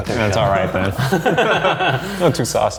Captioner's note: laughing